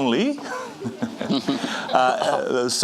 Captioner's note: chuckling